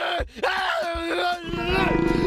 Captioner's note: screaming